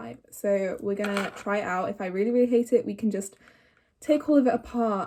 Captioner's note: deep inhale